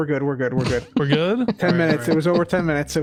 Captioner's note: laughs